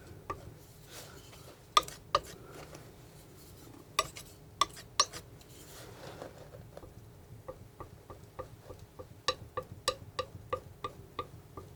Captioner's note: tapping on paint